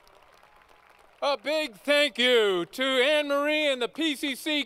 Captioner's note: applause